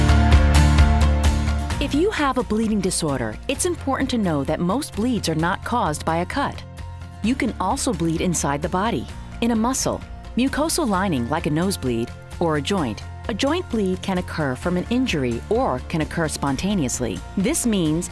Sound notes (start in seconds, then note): 2.0 voiceover